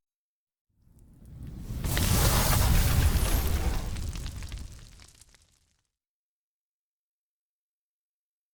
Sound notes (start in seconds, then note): 0.9 sizzling sound